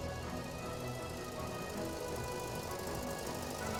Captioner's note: whirring